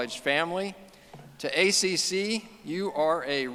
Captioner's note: none